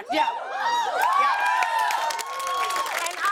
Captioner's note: cheers and applause